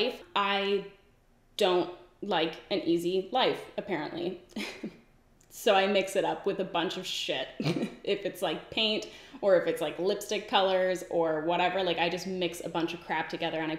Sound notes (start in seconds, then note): 4.6 giggles; 7.6 giggles